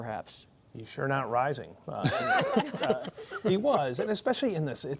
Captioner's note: laughter